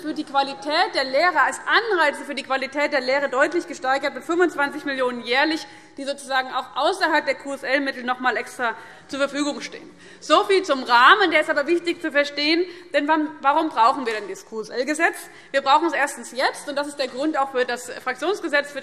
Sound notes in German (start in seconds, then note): none